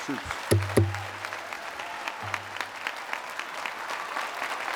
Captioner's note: applause